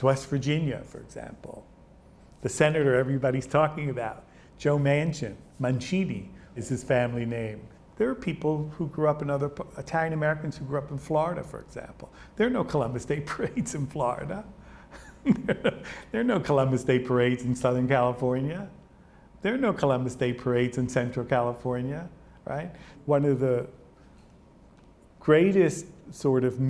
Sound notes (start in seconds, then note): 15.0 laughs